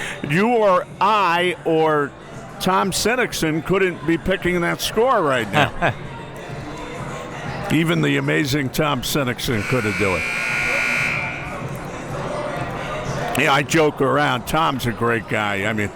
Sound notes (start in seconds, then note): 5.5 laughing; 9.6 buzzer ringing